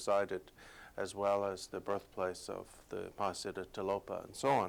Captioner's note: non-english speech